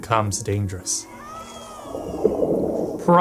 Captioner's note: Naga yelps